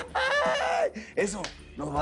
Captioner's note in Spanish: Ríe